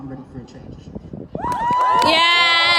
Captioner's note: whooping